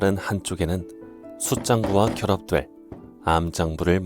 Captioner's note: hammering sounds